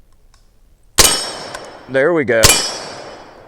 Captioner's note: gunshot